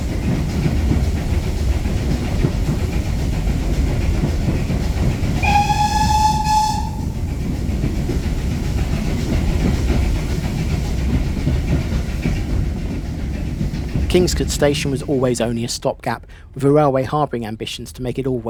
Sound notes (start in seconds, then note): 5.4 whistle; 7.3 puffing of a steam train leaving a tunnel